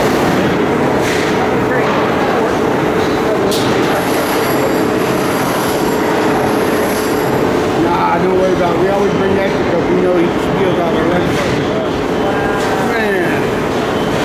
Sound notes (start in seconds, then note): 1.0 background conversations